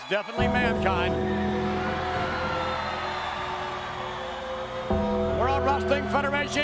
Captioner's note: crowd cheering; church bell ringing